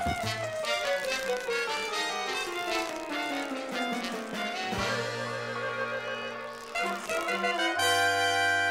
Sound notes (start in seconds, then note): 6.4 lip smacks